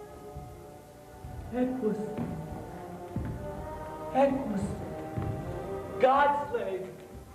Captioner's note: shouts